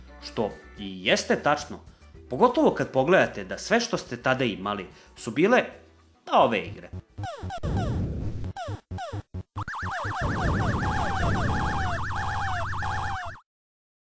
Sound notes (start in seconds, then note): 6.8 sounds from games